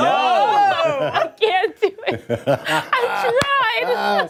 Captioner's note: laughter